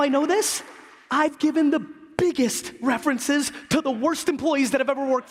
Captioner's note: applause